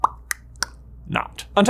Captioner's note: mouth popping